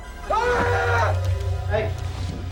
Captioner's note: yelling